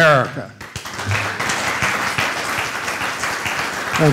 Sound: applause

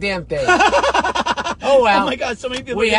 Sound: laughing

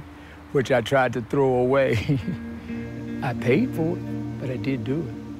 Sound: chuckles

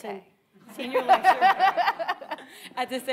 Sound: all laughing

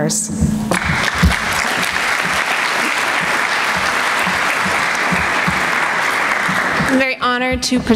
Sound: applause

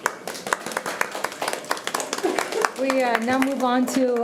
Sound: all clapping

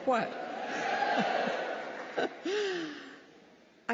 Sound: cheering

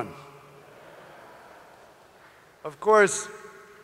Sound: audience laughing

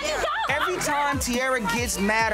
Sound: muffled shouting

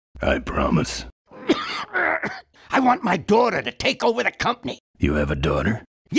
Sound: coughs

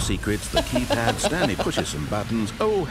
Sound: laughter

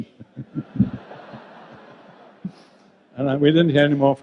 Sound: group laughs

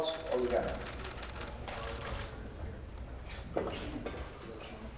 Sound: camera clicks

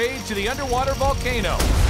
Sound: volcano erupts

